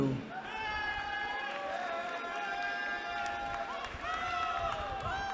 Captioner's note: cheering